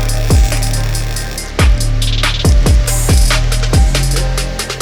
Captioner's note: grinder whirring; weld grinding